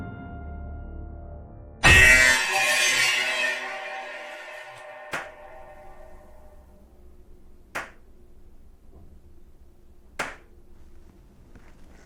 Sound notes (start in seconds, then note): 0.0 eerie dramatic music continues; 5.1 knife thuds